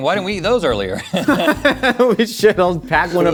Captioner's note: both laugh